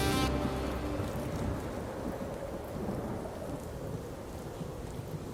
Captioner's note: wind howling